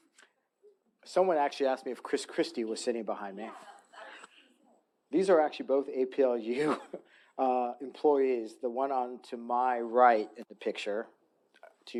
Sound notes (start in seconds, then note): 4.3 faintly speaking; 6.5 chuckles